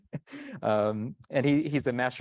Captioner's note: chuckles